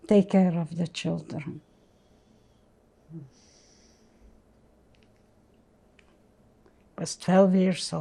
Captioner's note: pauses 6 seconds